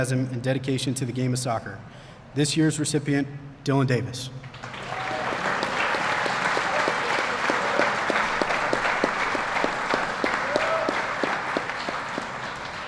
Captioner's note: applause